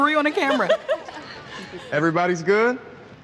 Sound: laughing

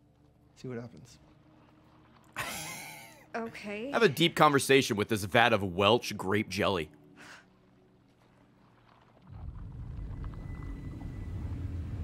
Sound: laughs

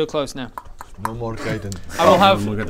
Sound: pop pop pop

